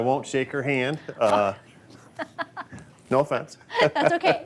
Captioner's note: laughs